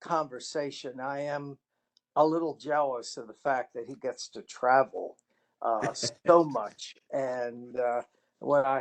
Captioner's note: laughter